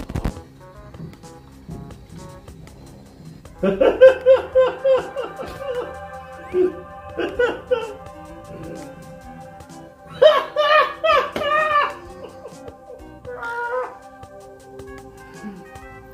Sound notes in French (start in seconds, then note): 3.7 rires !